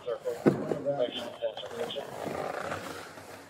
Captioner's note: radio chatter